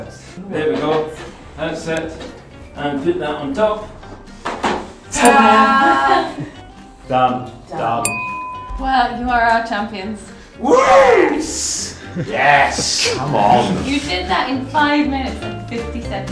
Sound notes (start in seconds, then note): 5.2 ding!; 8.0 ding!